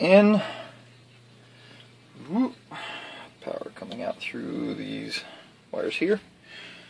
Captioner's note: mmm